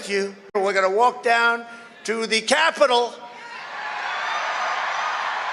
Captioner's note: crowd cheers